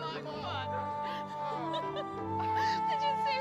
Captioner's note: anne & jack laughing